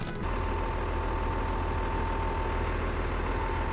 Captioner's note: engine hums